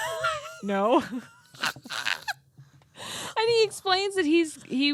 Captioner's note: both laughing